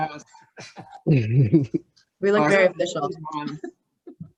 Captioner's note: group laughs